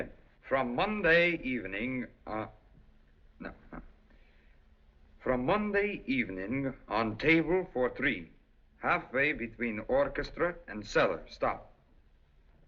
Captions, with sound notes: "From Monday evening"-- Uh-- No, no. [ Russian Accent ] "From Monday evening on table for three, "halfway between orchestra and cellar, stop.